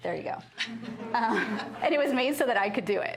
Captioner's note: laughter